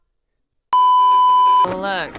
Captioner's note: beeeeeep